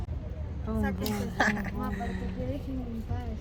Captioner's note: laughs